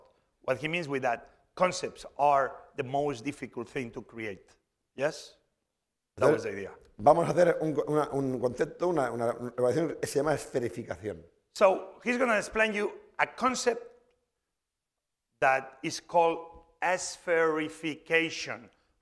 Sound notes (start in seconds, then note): 7.8 speaking spanish